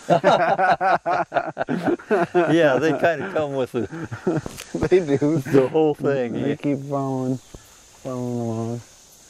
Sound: both laugh

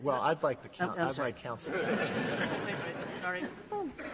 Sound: laughter

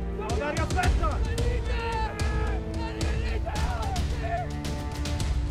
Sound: shouting to the zombies

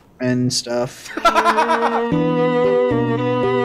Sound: laughs; music plays

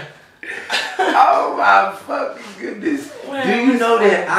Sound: laughing

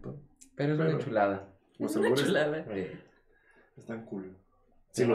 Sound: laughs

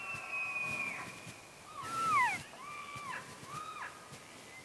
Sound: elk screeching

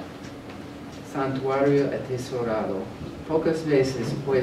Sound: speaking spanish

